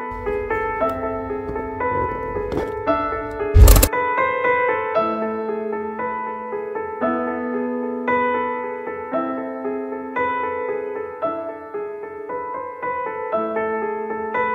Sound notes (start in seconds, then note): 3.0 attacking sound